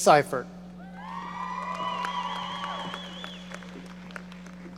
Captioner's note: audience cheering